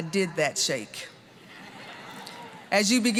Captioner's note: audience laughing